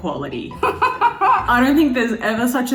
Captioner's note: laughs